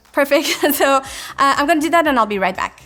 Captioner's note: laughs